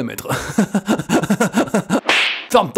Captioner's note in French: rires